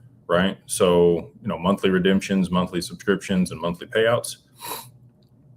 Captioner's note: snorts